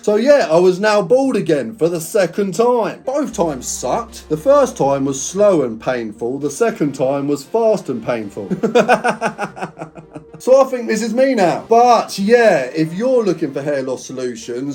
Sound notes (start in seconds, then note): 8.4 laughing